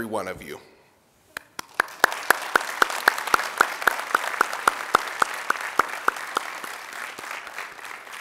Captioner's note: applause